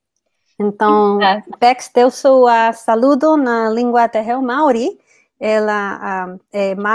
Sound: speaks portuguese

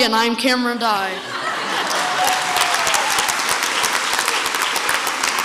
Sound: crowd laughs and applauds

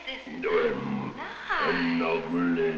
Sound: speaking in a foreign language

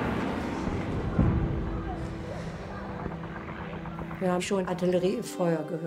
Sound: plane whirs; speaks in foreign language

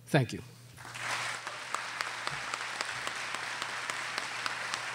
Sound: audience applauding

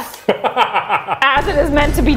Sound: laughing

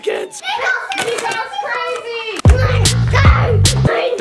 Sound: people shouting; child growling

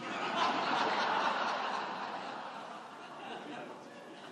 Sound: audience laughing

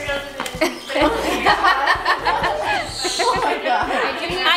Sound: laughing

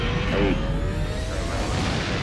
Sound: engines roar

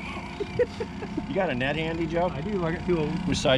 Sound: laughing

